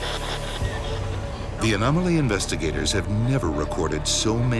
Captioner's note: voiceover